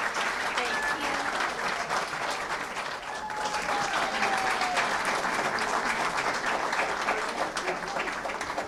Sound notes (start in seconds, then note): 0.0 cheering & applause